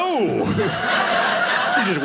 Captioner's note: audience laughing